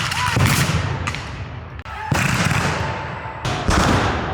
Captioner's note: guns fire